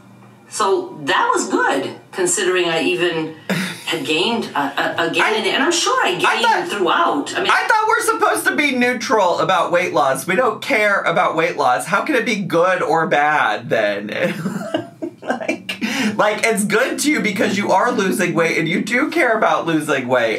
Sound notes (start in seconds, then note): 14.2 laughs